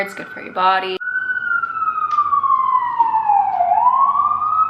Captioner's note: pauses for sirens